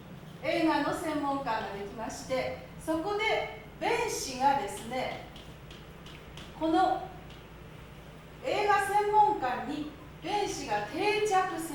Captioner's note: speaking Japanes